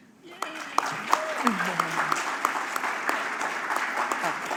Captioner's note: applause